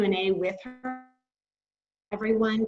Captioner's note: audio blurs